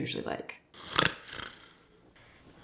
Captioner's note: snoring